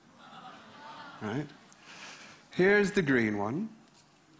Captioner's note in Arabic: ضحك